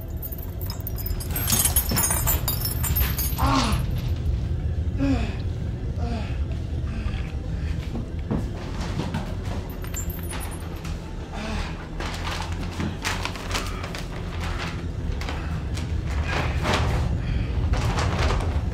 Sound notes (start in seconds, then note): 0.0 chains clanking; 3.4 grunts and groans; 11.2 bag rustling; 11.2 moaning